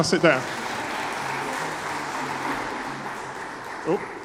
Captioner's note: applause